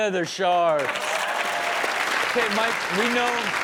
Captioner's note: audience cheers